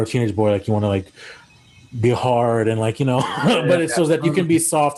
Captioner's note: laughs